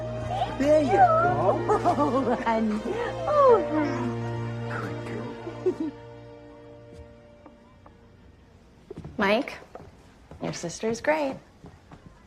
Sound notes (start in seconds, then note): 0.2 laughs